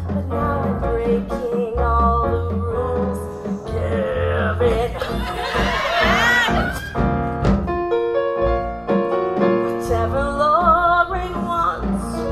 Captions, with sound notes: But now I'm breaking all the rules Give in! (audience cheers) Whatever Lorraine wants